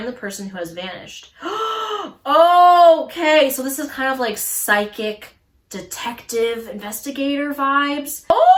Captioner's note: gasps